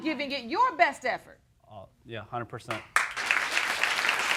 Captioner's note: audience applauding